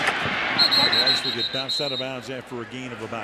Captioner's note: whistle blowing